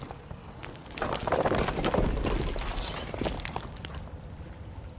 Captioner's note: debris crashing